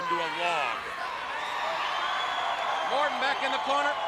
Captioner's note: crowd cheering